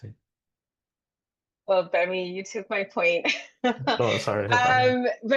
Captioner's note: laughs